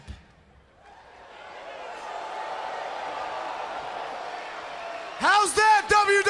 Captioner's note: crowd cheering